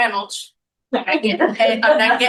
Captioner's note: laughing